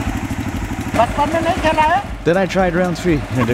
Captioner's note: Hindi; laughs